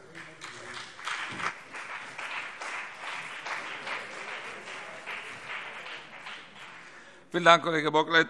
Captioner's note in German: Beifall BÜNDNIS 90/DIE GRÜNEN und CDU